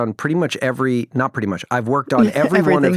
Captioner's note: chuckles